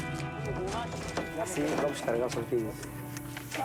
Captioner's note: Portuguese spoken audio